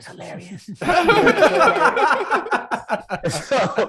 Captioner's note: hosts laughing